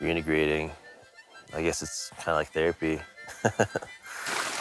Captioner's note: laughs; rushing water